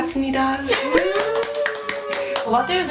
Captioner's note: round of applause